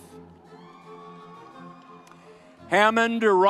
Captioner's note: upbeat music continues; audience cheers